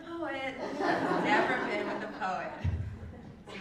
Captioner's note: laugh